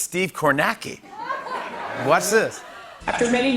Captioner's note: laughter